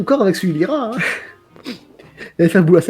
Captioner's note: small laugh